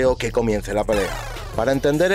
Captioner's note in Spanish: Fin de la intro con efectos de sonido de combate y el grito 'Mortal Kombat!'